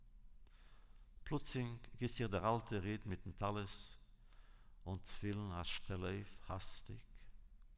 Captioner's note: Yiddish